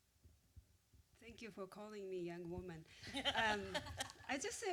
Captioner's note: laughter